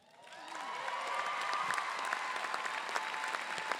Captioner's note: applause